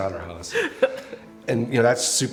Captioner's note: laughing